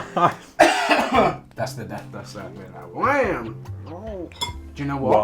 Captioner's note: coughs